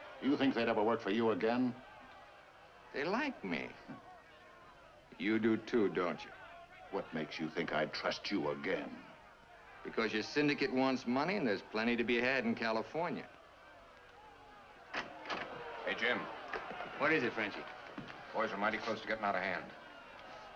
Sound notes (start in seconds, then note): 14.9 door opens